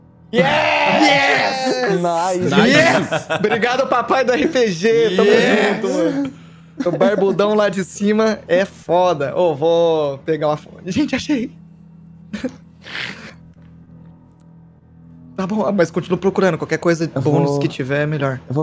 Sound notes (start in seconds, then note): 6.8 laughs